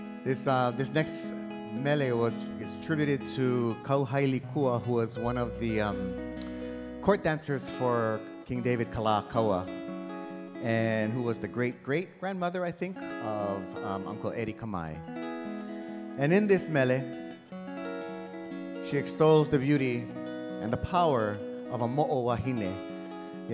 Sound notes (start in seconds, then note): 3.9 speaking in Hawaiian